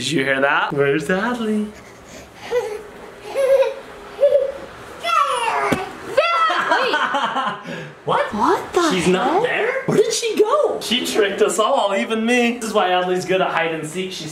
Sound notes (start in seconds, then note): 3.1 baby laughing